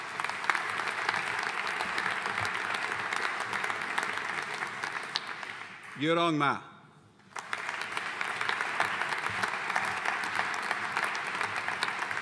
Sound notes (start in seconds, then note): 0.0 audience applauding